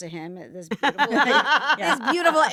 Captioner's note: all laughing